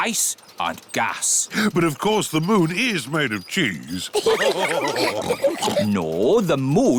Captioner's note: all laugh